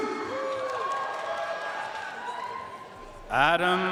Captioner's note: audience cheering and applauding